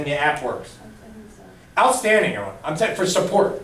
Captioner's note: voiceover